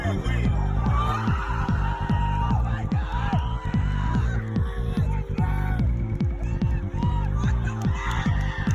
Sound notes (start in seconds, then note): 0.0 collective freakout